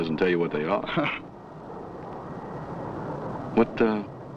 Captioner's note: Frank chuckles